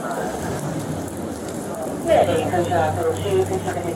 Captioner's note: radio chatter